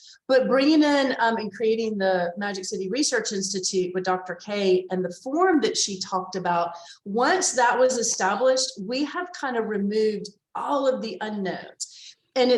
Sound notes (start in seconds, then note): none